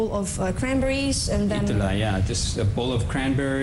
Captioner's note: non-english speech